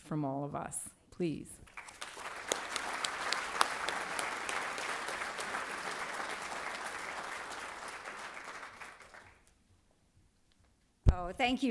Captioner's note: applause